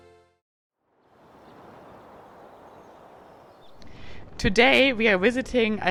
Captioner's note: birds chirping; water sloshing